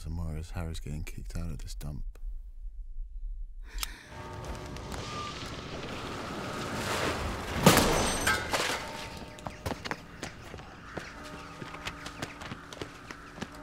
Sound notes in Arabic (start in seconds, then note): 4.4 قرع الجرس